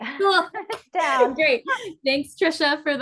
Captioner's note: laughs